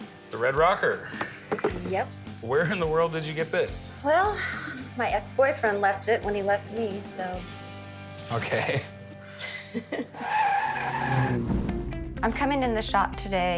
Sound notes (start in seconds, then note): 9.3 woman laughs; 10.2 sound of brakes screeching